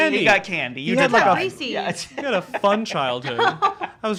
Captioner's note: laughing